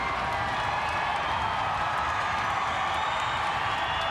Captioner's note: crowd cheering